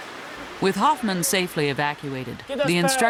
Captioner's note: voiceover